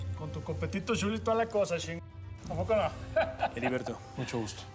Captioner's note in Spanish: risas